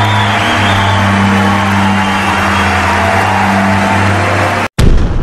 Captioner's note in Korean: 박수 함성